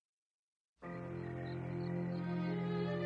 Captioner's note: crickets chirping